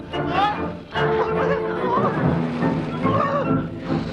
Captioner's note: villager whining